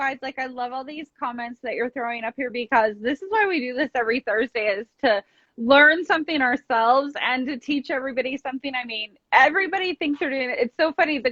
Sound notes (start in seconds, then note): none